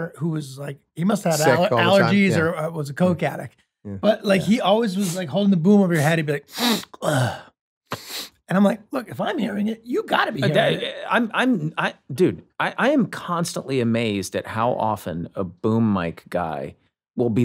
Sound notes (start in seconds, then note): 6.5 sniffles